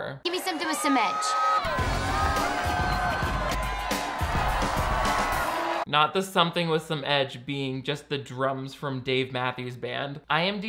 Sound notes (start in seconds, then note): 0.2 audience cheering; 1.6 upbeat music